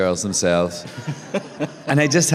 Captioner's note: laughter